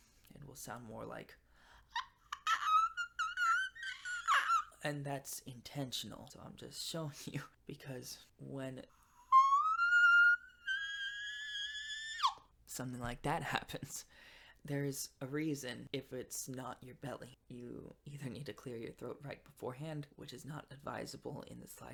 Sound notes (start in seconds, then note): 1.6 dying pterodactyl; 13.4 laughs